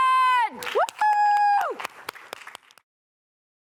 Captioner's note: applause